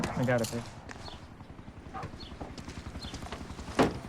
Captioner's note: helicopter flying